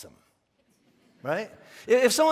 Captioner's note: congregation laughing